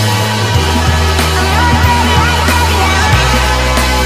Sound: woo

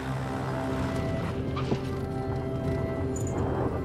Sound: tires thump down

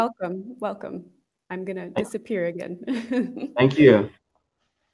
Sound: laughs

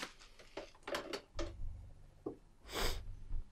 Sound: deep sniff

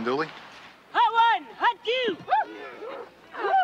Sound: women grunting; women whooping; women cheering

